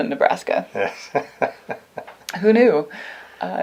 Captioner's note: laughs